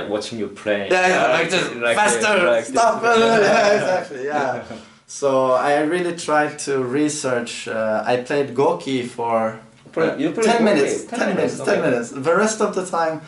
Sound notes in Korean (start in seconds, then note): 3.2 웃음